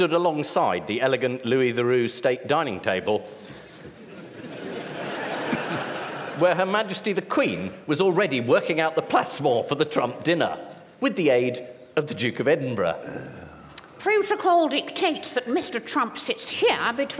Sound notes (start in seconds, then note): 3.5 laughter